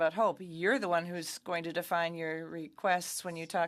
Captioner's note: speaking French